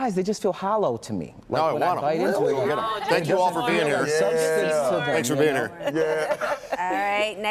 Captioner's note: laughter